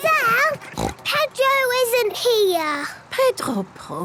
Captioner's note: snort